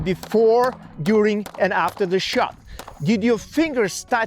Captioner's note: shots firing